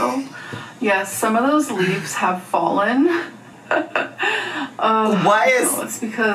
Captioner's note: laughs